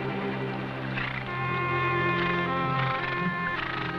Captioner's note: horses snorting